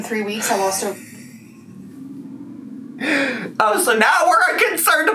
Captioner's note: laughs